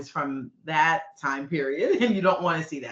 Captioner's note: chuckling